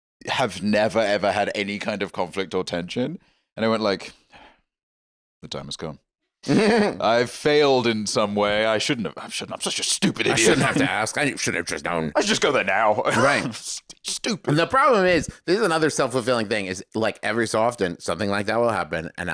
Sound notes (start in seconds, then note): 6.5 Travis laughs